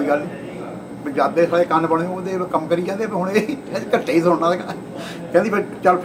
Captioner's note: laughs